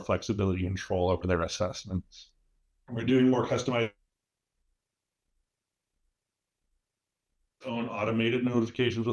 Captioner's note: silence